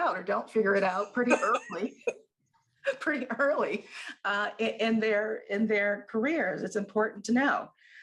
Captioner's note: laughter